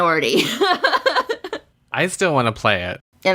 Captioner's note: laughs